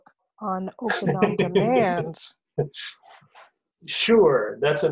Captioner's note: laughs